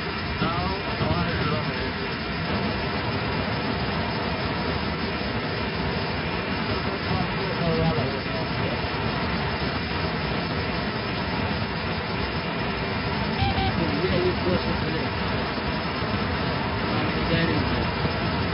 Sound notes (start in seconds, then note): 13.3 altimeter Setting Sound